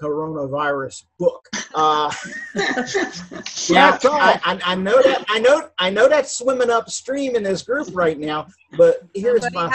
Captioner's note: laughter